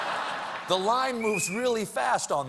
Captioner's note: laughter